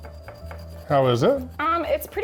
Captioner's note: plate clinking